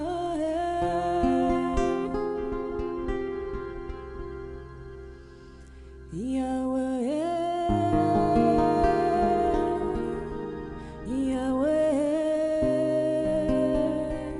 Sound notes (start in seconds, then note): none